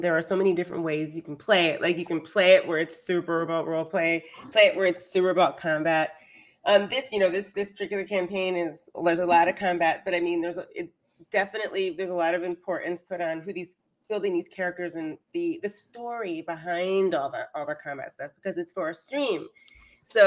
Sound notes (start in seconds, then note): none